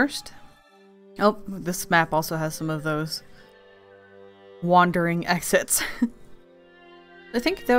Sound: laughs

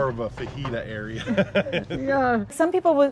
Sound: chuckling

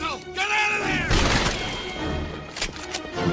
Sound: shooting

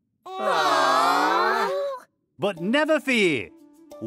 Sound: class groaning

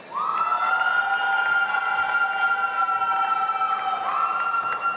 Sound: audience applauds

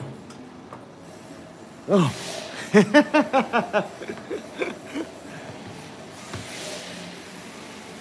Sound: laughs

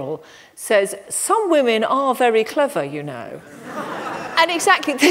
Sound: laughter

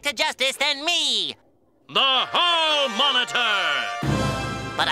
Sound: radio voice

